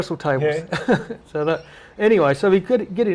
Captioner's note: laughter